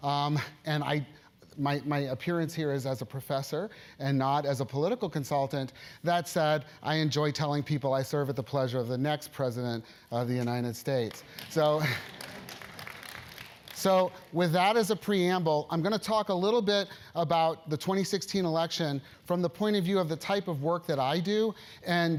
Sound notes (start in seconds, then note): 11.0 applause